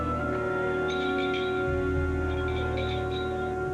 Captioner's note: rattle clanks